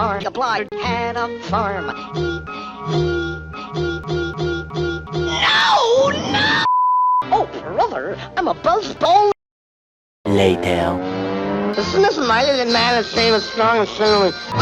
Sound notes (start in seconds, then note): 6.7 bars and tone